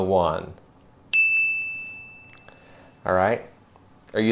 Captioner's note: bell rings